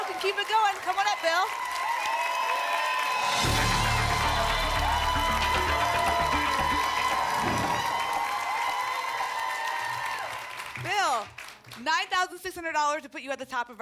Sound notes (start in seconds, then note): 1.7 applause and cheering cont; 7.4 whoosh; 8.4 applause and cheering cont